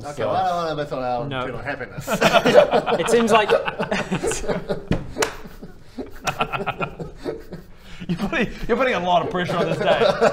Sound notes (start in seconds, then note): 4.2 laughs